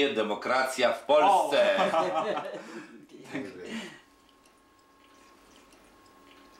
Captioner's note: translates in Polish